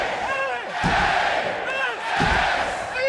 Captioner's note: crowd yells "h"; crowd yells "a"; crowd yells "s"